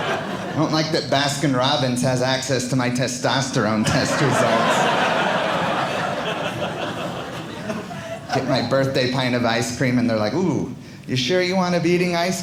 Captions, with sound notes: I don't like that Baskin-Robbins has access to my testosterone test results. (audience laughing) Get my birthday pint of ice cream, and they're like, ooh, you sure you want to be eating ice cream